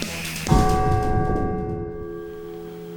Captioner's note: bell stroke